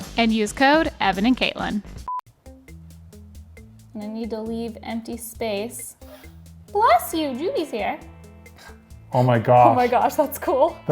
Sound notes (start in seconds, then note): 2.1 screen beeps; 6.0 sneezes